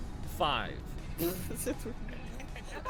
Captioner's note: nervous giggle